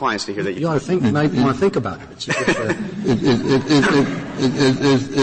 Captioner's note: laughter